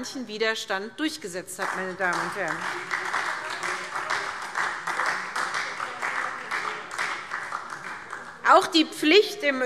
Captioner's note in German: Beifall SPD